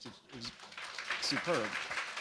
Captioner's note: applause